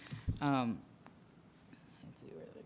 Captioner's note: voiceover